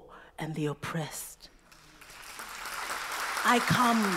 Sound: applause

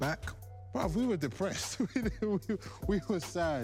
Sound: laughing

